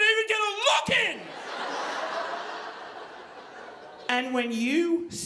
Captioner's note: audience laughing